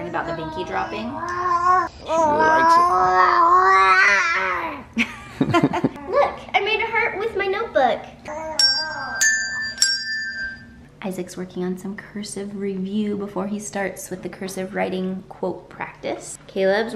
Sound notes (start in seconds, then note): 4.1 baby growling; 5.0 laughing; 8.5 bell ringing